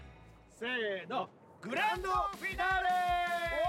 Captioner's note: speaking Japanese